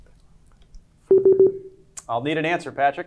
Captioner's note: buzzer beeping